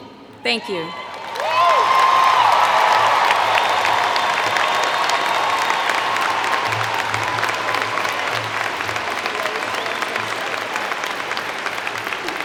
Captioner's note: applause & Cheer